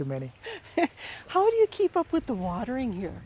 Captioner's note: chuckles